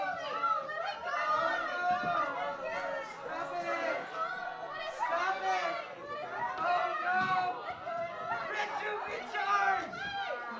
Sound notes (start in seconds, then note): 0.0 general yelling and chaos!